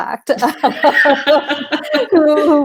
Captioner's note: laughing